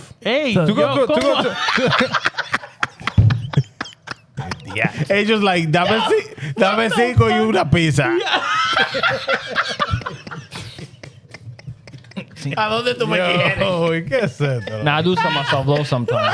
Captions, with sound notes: Hey, yo, come on. (Laughing) He just like, (Speaking In Foreign Language) (Laughing) I love that the way he had it. Yo, he can't say it though. I do some myself though sometimes.